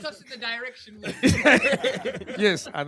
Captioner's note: laughter